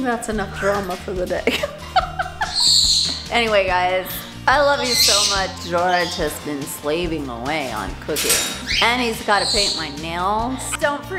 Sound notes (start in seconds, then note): 1.4 laughter